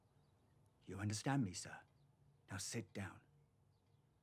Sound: none

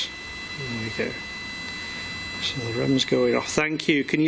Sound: machine buzzing

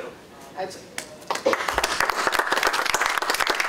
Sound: applause

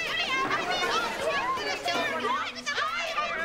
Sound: yelling

